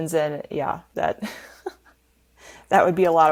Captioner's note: laughing